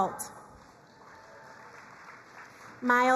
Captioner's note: crowd applauding